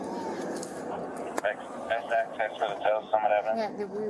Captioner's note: radio chatter